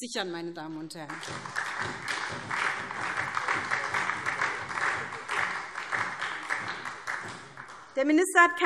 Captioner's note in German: Beifall SPD